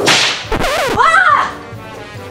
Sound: record scratch

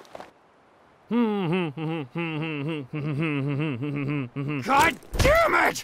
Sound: humming

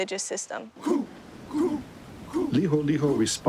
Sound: men chant

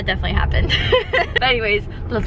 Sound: laughs

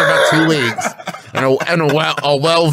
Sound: wheezing

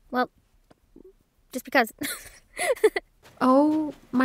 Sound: laughing

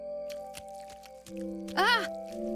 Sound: chews

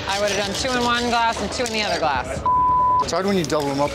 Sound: beep

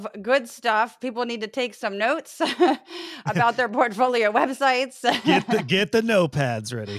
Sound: laugh

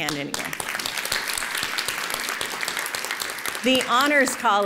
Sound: applause

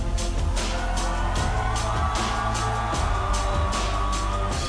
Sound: audience cheering

